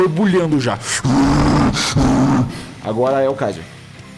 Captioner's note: enraged roar